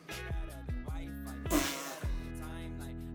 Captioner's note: fart noise